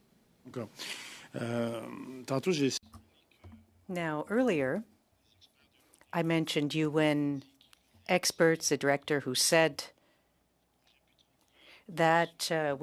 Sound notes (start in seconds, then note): 5.9 speaking French